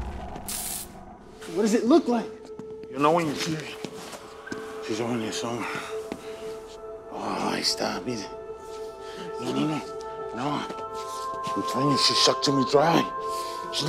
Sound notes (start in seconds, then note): 7.1 foreign language